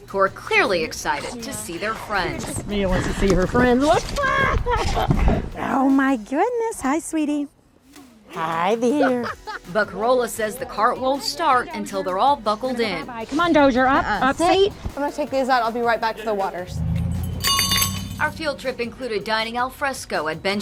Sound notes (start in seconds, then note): 4.2 laughs; 8.9 laughing